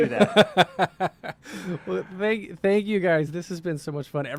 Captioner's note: laughs